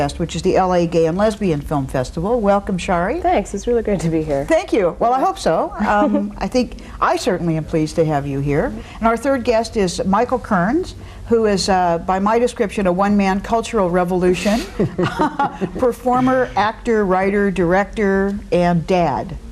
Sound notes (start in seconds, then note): 14.7 laughing